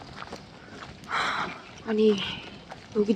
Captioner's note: deep sigh